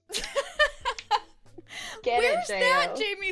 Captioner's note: laughs